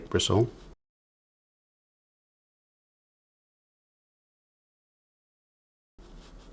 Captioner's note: silence